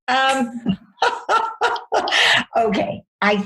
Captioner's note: laughs